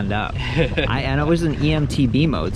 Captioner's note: laughs